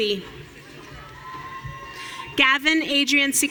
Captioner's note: audience cheering